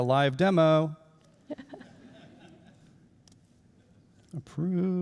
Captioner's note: laughing